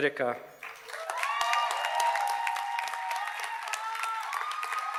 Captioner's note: audience cheers and applauds